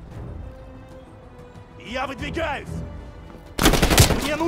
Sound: speaking russian; gunfire

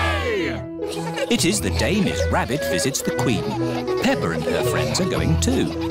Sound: all giggling

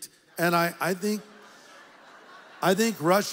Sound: audience laughs

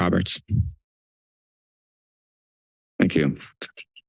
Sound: silence

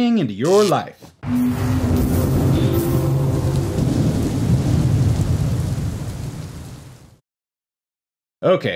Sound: murky electric noises and wind

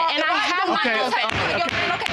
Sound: both arguing; banging gavel

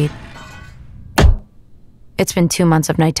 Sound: metal clanks

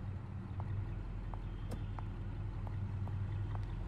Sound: car door closes

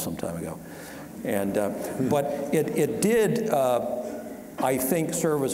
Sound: audience chuckling

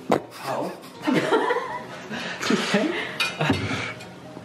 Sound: laughing

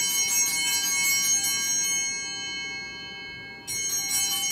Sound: bell ringing

